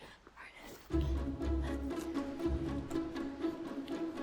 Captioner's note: Connie pants; dramatic music